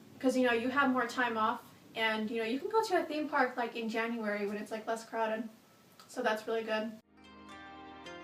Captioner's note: none